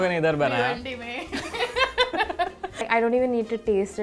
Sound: both laughing

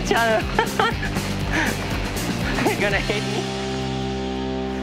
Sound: laughs

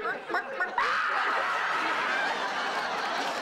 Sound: screaming

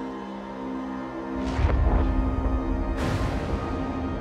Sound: eerie sounds

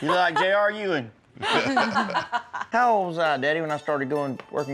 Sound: laughter

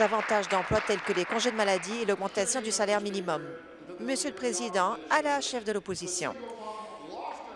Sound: applause

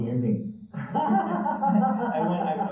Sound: both laughing

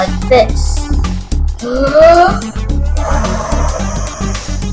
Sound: cornenel inhales then exhales

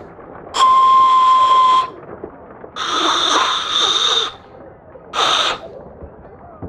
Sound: whistling and hissing noises

